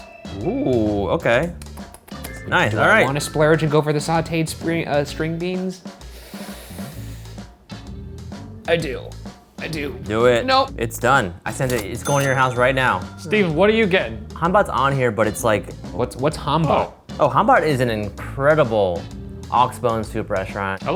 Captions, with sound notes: - Ooh, okay, nice, all right! - Do I wanna splurge and go for the sauteed string beans? (inhaling) I do, I do. - Do it! - No! - It's done, I sent it, it's going to your house right now. - Steven, what are you getting? - Han Bat on here but it's like-- - What's Han Bat? - Oh. - Oh, Han Bat is an incredible ox bone soup restaurant.